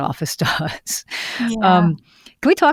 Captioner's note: laughs